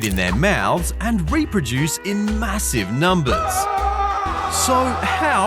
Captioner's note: screams